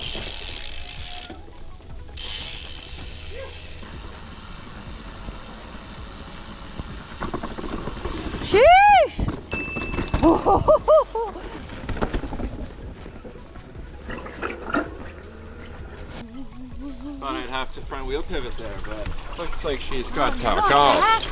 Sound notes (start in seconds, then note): 0.0 wheels whooshing; 0.2 wheels whizzing; 4.4 wheels whooshing; 8.7 shouting; 10.2 laughing; 11.1 wheels whooshing; 14.4 wheels squeaking